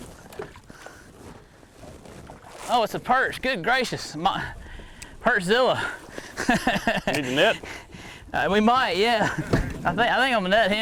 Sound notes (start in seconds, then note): 6.2 laughs